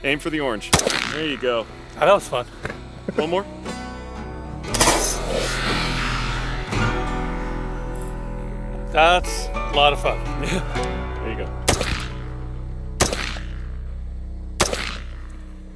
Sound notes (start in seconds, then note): 0.7 gunshot blasting; 4.7 missile buzzing; 12.9 gunshots blasting